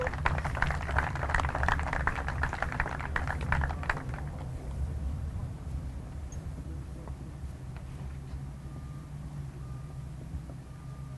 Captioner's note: applause